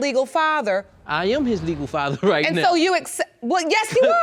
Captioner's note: laughs